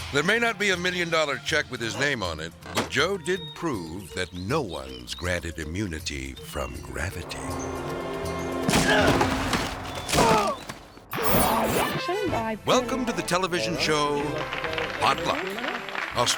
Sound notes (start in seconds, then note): 8.7 grunts